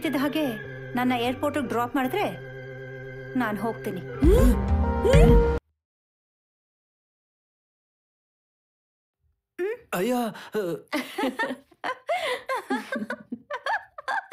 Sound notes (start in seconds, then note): 4.9 gasp in unison